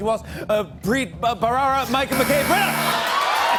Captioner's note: buzzer; cheers and applause